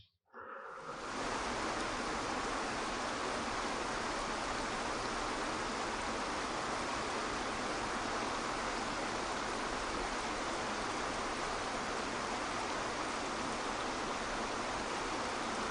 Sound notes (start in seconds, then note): 1.3 waterfall crashing